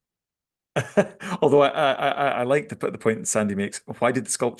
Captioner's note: laughs